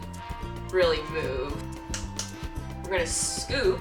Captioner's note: slaps maltose